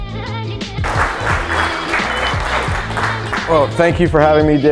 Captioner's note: applause